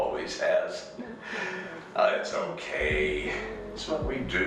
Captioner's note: sighs